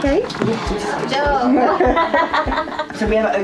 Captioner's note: laughing